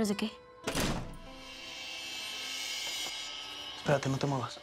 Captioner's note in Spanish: sonido al abrir y cerrar la puerta